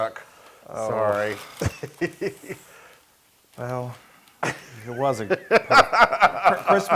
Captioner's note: laugh